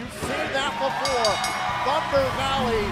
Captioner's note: bell ringing